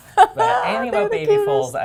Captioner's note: laugh